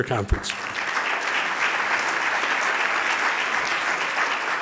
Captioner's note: audience applauding